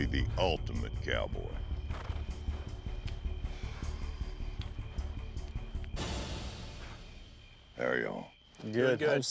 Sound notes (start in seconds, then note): 3.2 all sighing